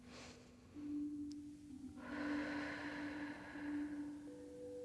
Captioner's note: exhaling